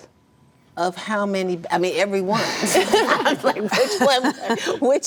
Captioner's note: laughs